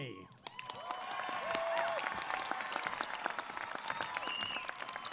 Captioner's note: audience cheers and claps